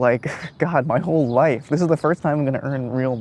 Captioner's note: chuckles